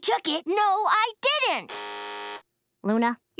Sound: buzzing

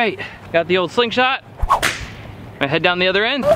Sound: slingshot snaps

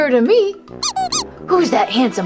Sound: comical squeaking

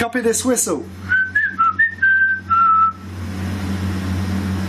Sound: whistles

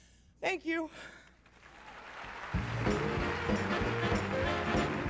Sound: applause and music

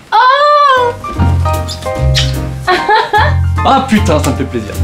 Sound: kissing noise and laughter

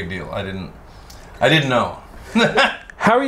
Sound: laughs

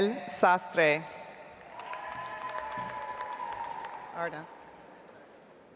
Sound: audience applauds

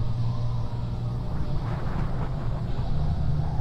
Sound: wind whistling

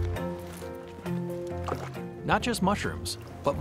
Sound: water splashing

